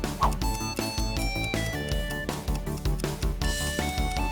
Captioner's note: timer starts ticking